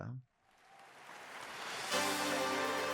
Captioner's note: audience cheering; lively music